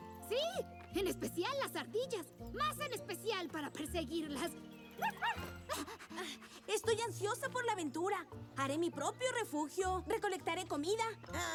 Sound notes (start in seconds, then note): 4.3 bark